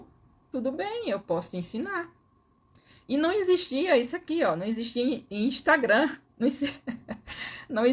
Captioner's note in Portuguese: risadas